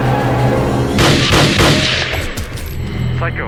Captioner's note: gunshots